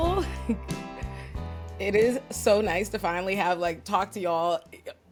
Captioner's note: laugh